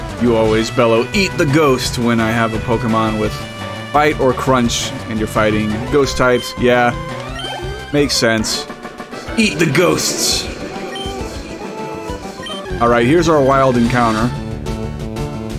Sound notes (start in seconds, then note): 8.3 echoing